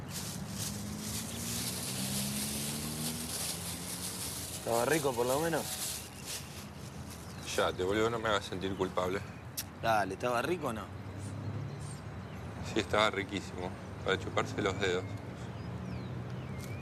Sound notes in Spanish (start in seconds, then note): 9.3 chasquea la lengua